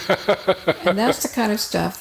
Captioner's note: chuckling